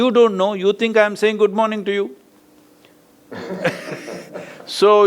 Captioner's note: laughs